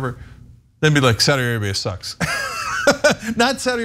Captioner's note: laugh